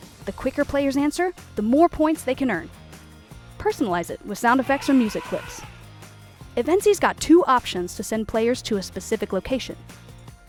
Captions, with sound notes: The quicker players answer the more points they can earn. Personalize it with sound effects or music clips. [elephant sounds] Eventzee's got two options to send players to a specific location.